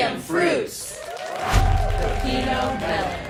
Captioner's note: audience cheering